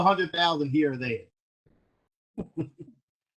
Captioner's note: laughter